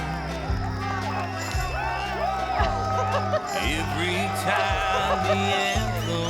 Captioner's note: cheering, applause